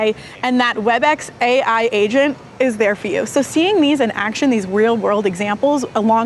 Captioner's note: none